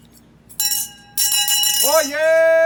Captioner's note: bell clanking